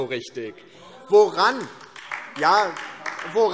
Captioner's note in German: Beifall DIE LINKE